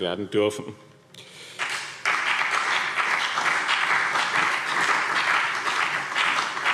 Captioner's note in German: Beifall BÜNDNIS 90/DIE GRÜNEN und CDU